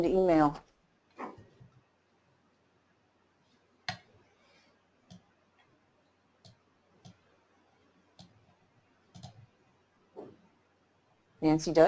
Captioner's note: silence